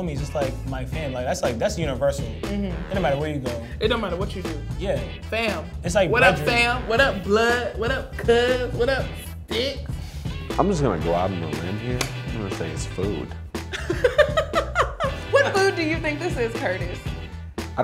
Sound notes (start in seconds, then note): 13.7 laughs